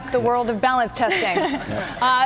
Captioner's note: laughter